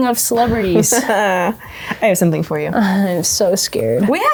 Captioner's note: laughing